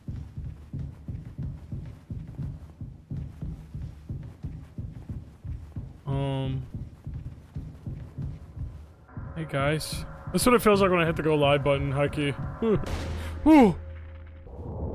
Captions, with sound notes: (Jimmy's footsteps thudding) Um... Hey, guys. This is what it feels like when I hit the Go Live button high-key. (gasps)